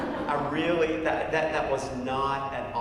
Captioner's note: laugh